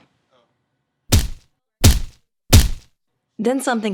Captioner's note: punching